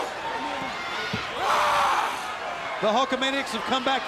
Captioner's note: wrestler screams